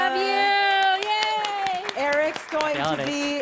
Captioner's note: applause and cheering